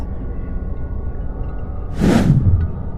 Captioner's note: swoosh